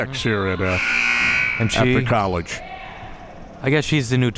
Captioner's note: buzzer sounding